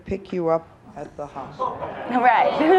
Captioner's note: laughs